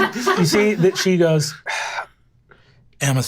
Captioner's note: sighs